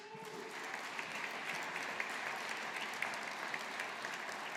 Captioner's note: audience applauding